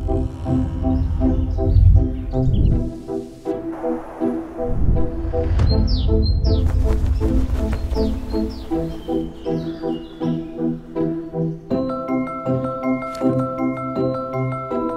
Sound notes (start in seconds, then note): 5.9 birds chirping